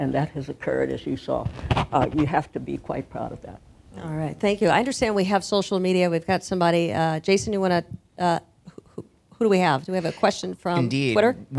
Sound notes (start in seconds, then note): none